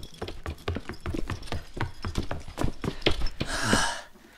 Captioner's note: running footsteps